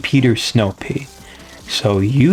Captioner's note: inhales Oxygen